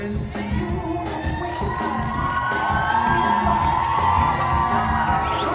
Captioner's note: cheering